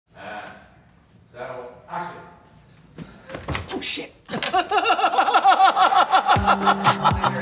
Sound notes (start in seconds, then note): 4.3 laughter